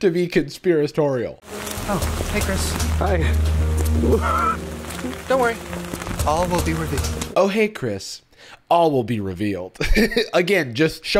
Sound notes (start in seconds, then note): 4.0 rain falling; 9.8 laughs